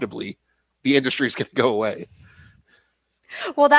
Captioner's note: laughter